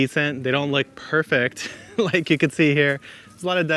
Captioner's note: laughs